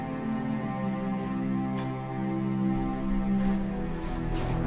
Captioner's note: opening door